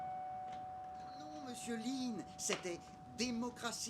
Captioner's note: TV sound : "Eh no Mister Line